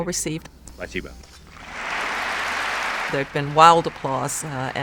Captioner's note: applause